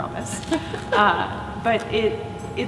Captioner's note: laughing